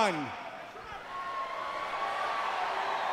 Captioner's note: crowd cheering